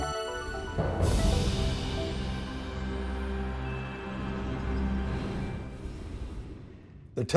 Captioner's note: soft music; wind whooshing